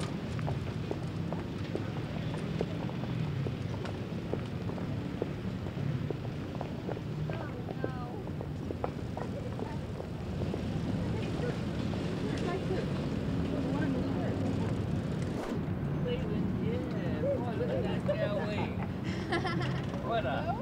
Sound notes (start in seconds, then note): 0.7 ambient street noise; 0.7 footsteps; 13.7 ambient street noise; 17.4 laughter